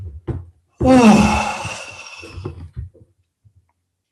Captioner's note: sighs